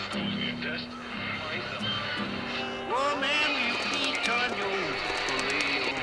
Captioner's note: distant conversation on the radio